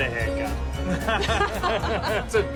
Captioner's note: laughing